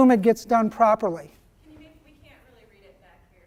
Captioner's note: voiceover